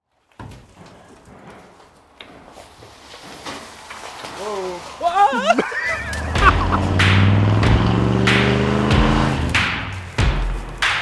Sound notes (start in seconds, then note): 4.8 squeals and laughs; 8.7 car engine revving